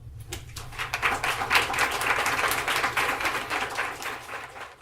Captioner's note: attendees clapping